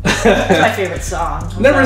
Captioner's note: laughter